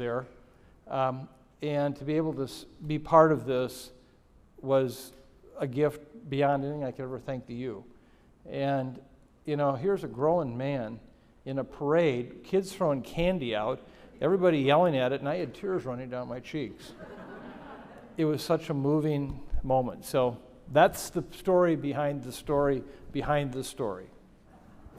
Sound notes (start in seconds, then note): 16.9 audience laughing